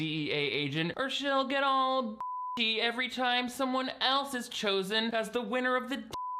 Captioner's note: beep; beep